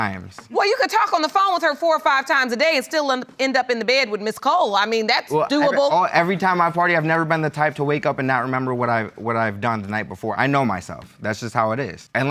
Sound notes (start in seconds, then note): none